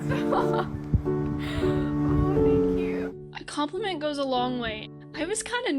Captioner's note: laughter